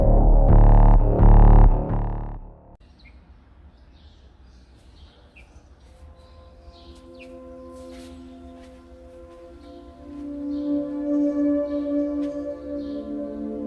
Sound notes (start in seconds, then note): 3.6 birds chirping; 8.1 light gentle relaxing music